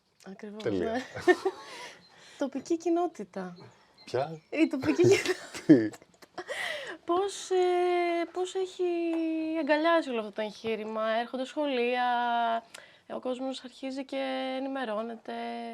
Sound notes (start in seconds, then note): 4.7 laughs